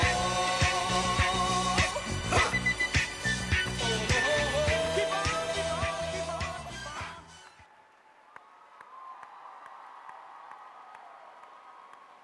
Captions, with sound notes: Huh! Oh! Keep on, keep on, keep on, keep on. Ha! [CHEERING] [APPLAUSE]